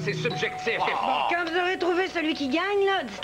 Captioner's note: On sonne à la porte